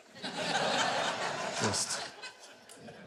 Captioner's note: audience laughs